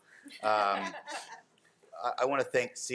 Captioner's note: board members laughing